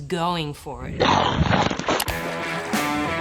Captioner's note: bam!